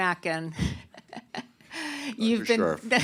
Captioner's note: laughs